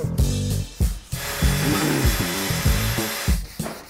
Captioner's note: Maschinengeräusche